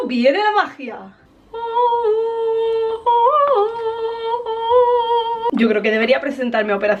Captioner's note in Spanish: tararea música angelical